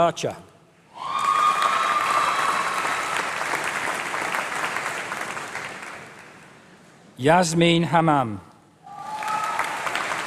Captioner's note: applause